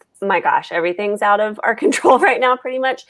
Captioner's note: laughs